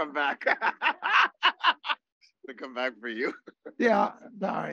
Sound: laughs

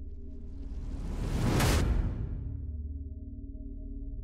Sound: logo whooshes

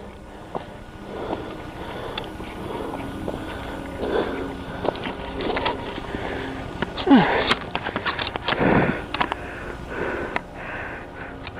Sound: panting and grunting

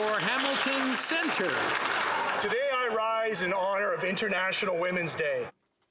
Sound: some Applause

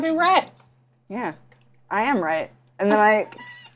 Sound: whispering to each other

